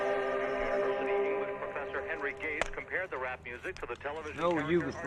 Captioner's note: man, on radio